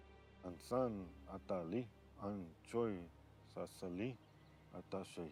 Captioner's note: speaking in foreign language